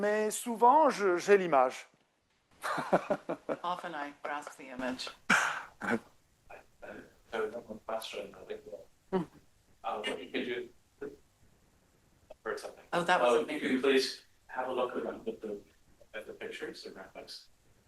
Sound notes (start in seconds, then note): 5.3 laughs